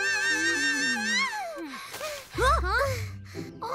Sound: Chumli screaming; Chumli panting

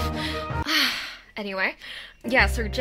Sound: sighs

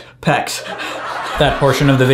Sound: audience laughs

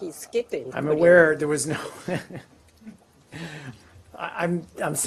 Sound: laughs

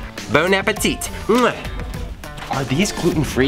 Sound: kissing sound

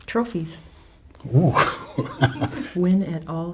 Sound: laughing

